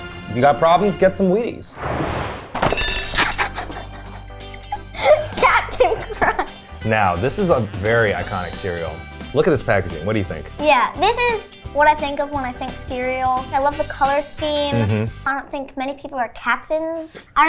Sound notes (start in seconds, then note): 1.8 animated explosion booming; 2.0 cereal box thudding; 2.6 spoon clangs; 3.2 laughs